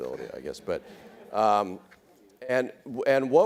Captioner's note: audience laughs